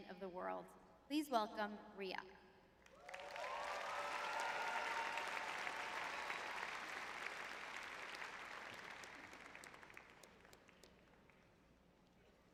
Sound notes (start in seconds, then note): 3.0 audience cheering; 6.0 audience applauding